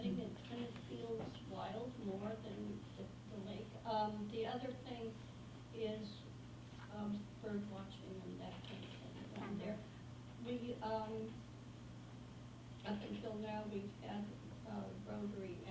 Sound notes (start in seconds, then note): 7.2 faintly speaking